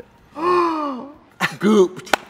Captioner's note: gasps